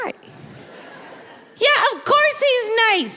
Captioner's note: audience laughing